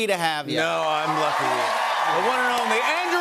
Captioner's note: cheers and applause